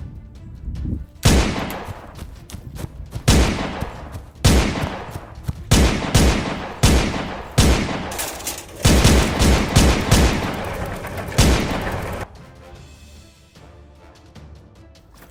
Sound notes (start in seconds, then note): 1.2 gun shot; 3.2 gun shots